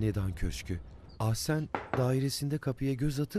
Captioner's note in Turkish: Kapı vurma sesi